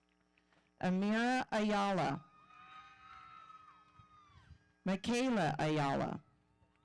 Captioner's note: audience cheering